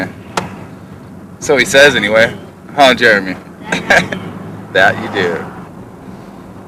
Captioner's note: laughter